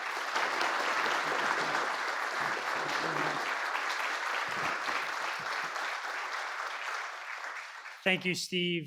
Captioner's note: applause